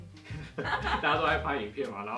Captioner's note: laugh